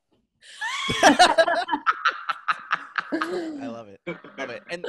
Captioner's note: laughing